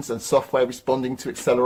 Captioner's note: none